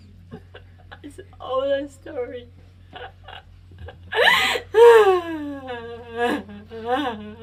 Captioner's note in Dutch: huilt